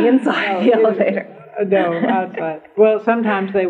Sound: laughter

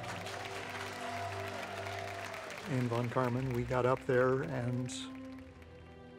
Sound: crowd cheering

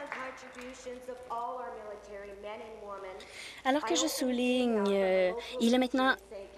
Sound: applause

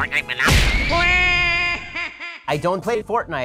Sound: Waluigi screams

